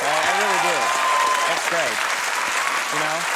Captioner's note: audience applaud